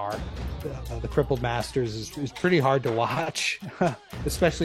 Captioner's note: laughs